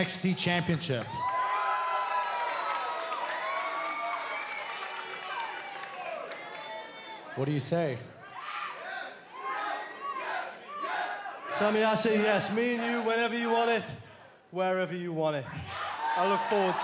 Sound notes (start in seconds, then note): 5.6 cheers & applause; 10.7 fans chanting